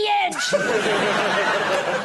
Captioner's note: laughter